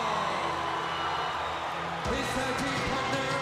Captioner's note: crowd cheering